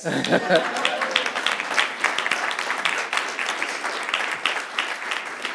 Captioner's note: audience clapping